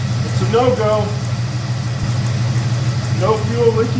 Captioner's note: engine idling